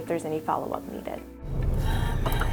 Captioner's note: car blinker flickering